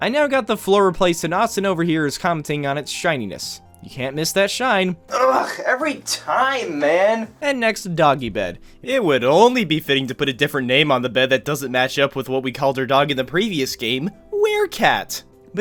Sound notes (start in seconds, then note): none